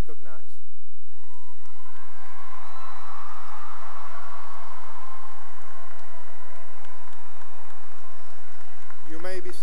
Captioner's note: cheering and applause